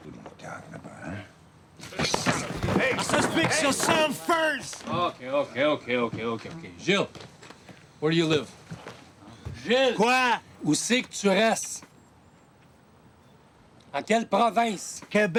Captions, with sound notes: - Who are you talking about, huh? - Hey! - Just fix yourself first! - Okay, okay, okay, okay, okay, okay. Gilles, where do you live? Gilles! (Gilles speaks Spanish) (Roots speaking Spanish)